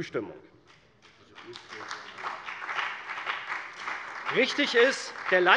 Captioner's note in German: Beifall bei der CDU und dem BÜNDNIS 90/DIE GRÜNEN